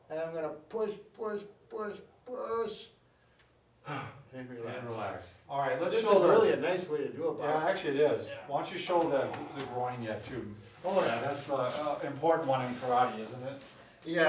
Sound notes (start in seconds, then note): 3.8 exhales